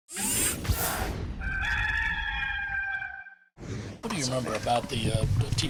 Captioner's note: rooster crows